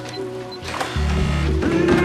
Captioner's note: beeping